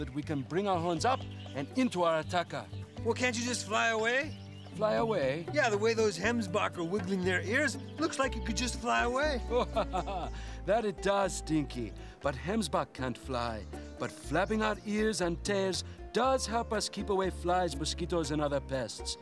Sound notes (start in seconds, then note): 9.5 D'kembe chuckles